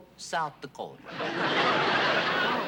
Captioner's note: laughter